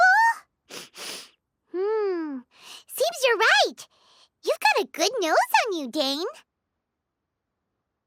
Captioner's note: sniff